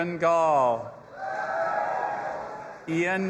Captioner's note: audience applauding and cheering